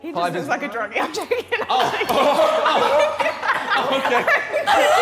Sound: Sidemen laughing

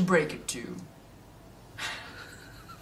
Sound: laughter

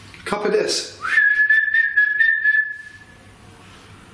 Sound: whistles

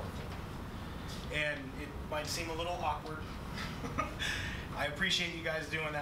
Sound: laughs loudly

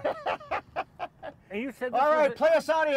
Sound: laughing

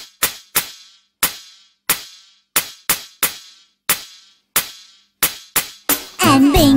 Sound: clap

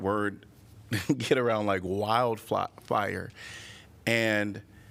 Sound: laughter

